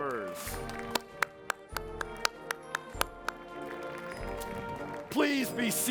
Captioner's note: applause